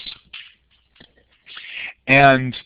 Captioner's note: pause